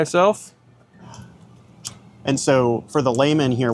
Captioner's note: metal clicks